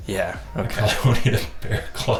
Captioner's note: laughing